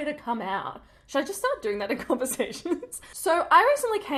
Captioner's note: giggles